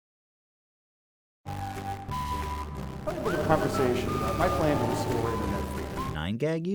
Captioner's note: distorted audio from Ajit Pai video